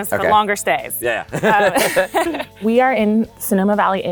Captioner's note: chuckles